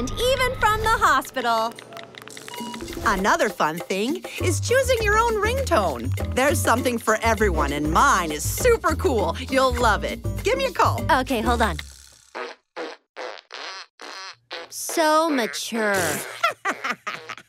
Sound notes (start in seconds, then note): 0.2 machine beeping; 11.6 farting sounds; 15.9 laughing; 16.1 sighing